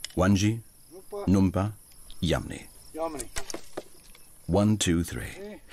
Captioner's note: speaking native language